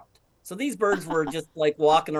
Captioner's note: laughing